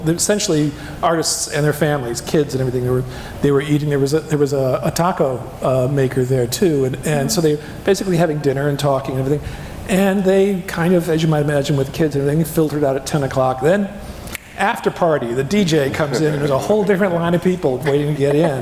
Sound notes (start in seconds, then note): 14.3 fingers snapping